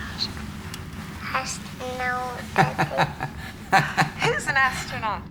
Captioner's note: laughs